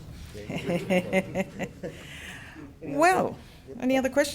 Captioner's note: laughing